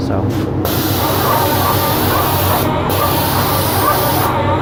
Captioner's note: paint spraying